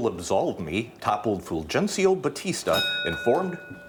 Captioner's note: bell dings